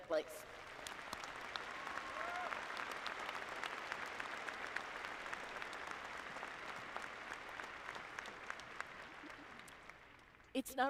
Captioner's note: applause